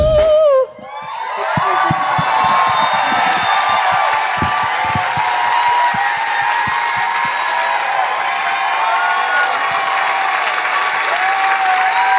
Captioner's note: cheers; loud Applause